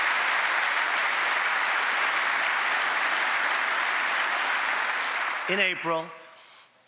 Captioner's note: applause